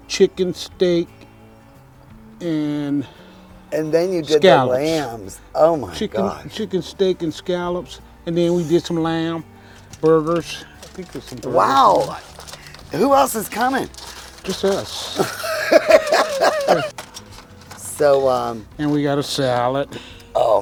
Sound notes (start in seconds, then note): 14.4 laughs